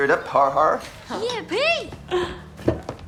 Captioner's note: chuckling